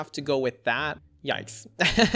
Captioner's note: laughs